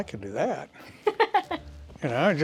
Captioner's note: laughs